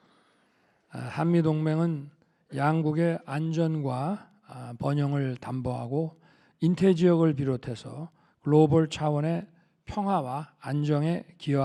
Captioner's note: speaking Korean